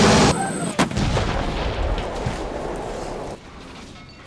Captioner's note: exploding